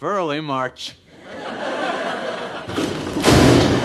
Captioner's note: audience somehow laughs